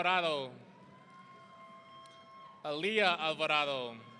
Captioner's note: audience cheering